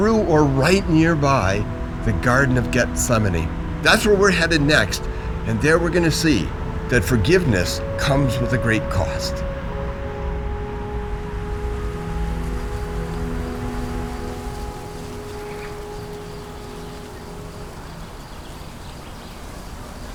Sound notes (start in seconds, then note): 11.8 birds chirping; 11.8 leaves rustling